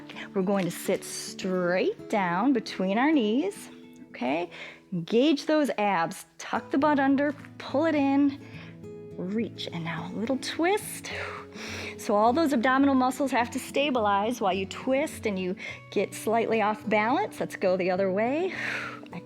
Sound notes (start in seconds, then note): 11.1 exhales and inhales; 18.6 exhales